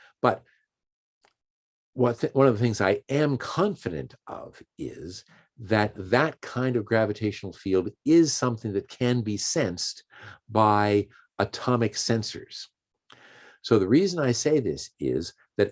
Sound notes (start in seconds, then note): none